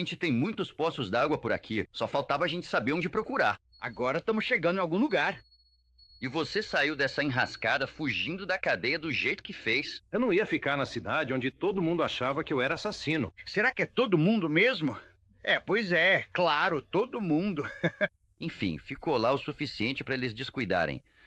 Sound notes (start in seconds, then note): 14.0 scoffs; 17.5 chuckles